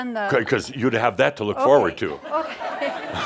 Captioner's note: laughter